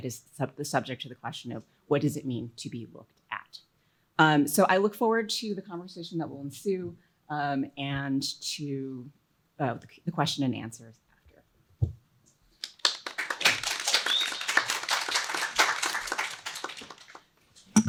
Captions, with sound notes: That is the subject of the question of, what does it mean to be looked at? So I look forward to the conversation that will ensue and to the question and answers after. [APPLAUSE]